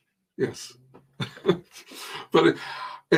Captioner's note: chuckling